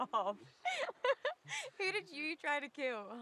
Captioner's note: Betty laughing